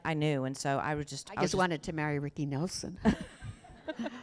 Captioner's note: laughter